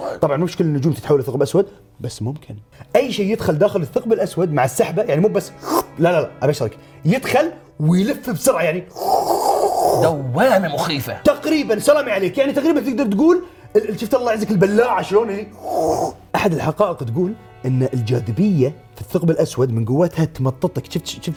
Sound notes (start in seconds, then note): 15.5 slurps